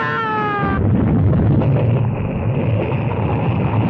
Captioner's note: Elizabeth screaming; car rumbling